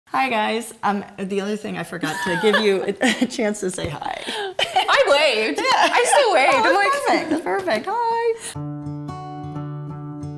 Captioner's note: laughing